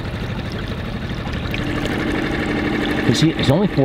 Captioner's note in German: Motor rumpelt